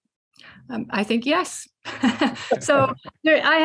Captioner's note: laughs